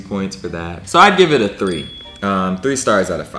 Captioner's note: bell ringing